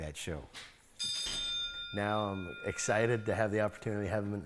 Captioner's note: rings bell